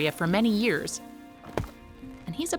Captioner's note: axe hitting dirt